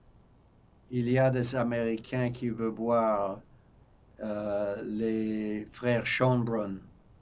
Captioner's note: french